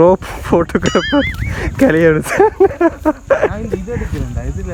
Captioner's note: laughing